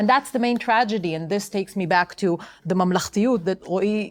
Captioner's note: speaking hebrew